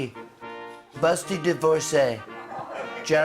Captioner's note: laughter until end